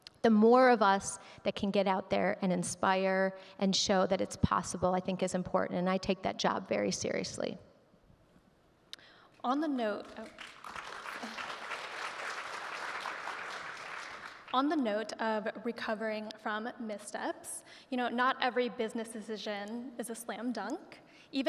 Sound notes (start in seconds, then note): 10.1 audience clapping